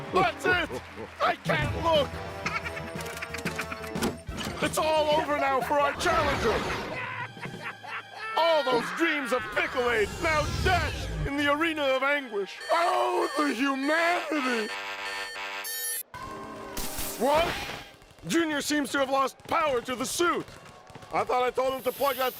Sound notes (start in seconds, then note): 2.3 laughing; 6.2 cackling; 12.5 alarm beeping